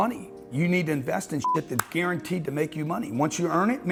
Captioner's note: beep